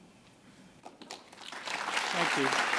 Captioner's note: applause